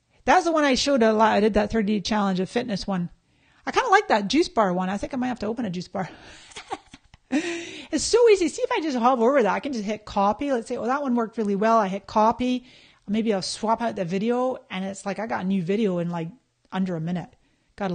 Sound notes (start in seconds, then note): 6.4 laughing